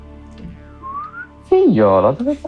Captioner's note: whistle